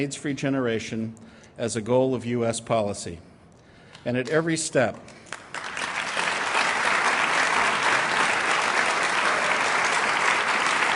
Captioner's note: applause